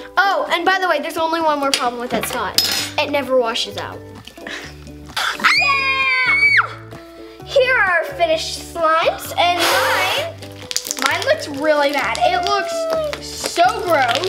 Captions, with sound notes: - Oh and by the way, there's only one more problem with that snot, it never washes out. (screams) - Here are our finished slimes, and mine looks really bad, it looks so gross.